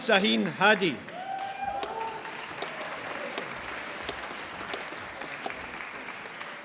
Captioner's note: applause